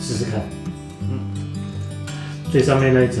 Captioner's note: nonverbal grunt as interjection